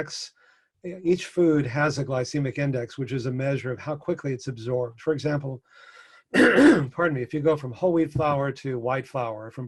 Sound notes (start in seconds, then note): 6.3 coughs